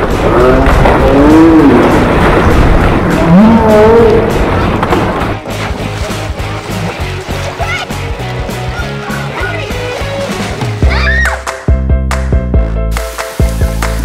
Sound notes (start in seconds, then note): 0.6 splaaaaash!